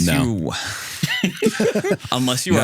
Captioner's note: both Laughing